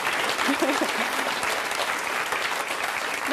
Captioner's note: applause